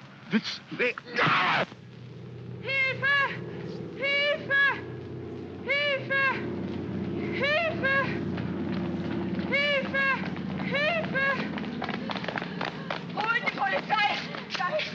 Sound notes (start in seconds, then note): 1.0 Felix cries out; 2.6 aircraft rumbles overhead; 2.6 woman shouting in German; 8.0 aircraft rumbles overhead; 9.5 woman shouting in German; 11.8 running footsteps; 13.2 woman speaking frantically in German